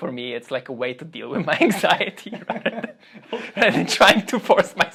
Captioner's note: laughs